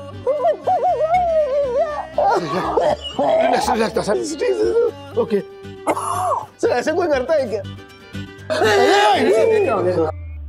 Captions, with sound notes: He was going to kill me. [coughs] Sir. Okay. Sir, how can you do this? - Hey. - Hey.